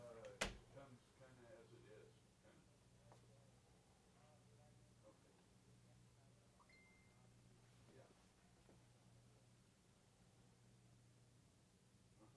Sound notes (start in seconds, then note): 0.0 indistinct chatting; 6.6 phone beeps